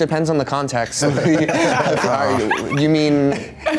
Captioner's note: all chuckle